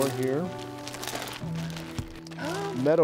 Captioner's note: plastic rattles